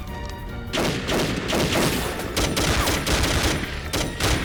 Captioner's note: gunfire clattering